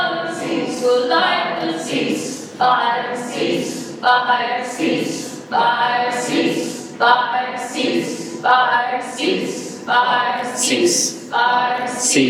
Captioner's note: speaker and crowd chant together